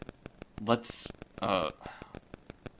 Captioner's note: a click, and the tape rewinds